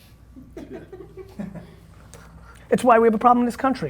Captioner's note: laughing